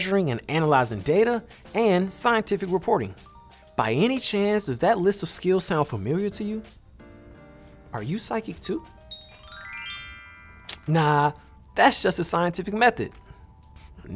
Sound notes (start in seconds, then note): 9.0 chime trills